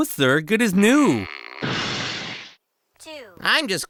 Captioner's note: crash